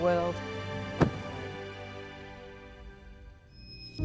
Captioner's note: whale thumping; somber music